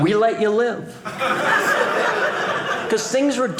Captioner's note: audience laughing